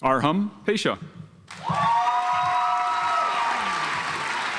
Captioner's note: audience applauds